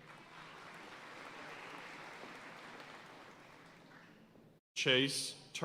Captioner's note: audience cheering and applauding